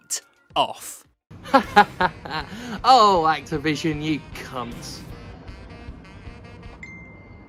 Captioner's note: vehicle drives past and fuzzes the audio; phone goes off